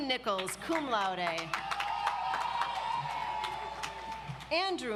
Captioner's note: audience applauds